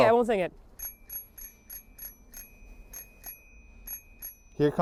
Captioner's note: ringing bell